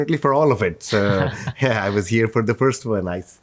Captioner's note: chuckling